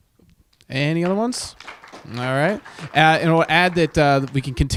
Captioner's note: audience applauding